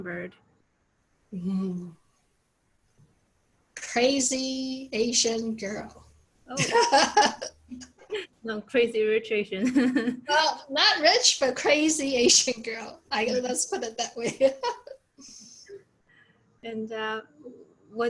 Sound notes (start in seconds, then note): 6.6 laughs; 9.2 laughs; 15.2 both laugh